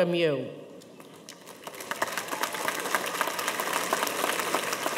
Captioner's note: audience applauding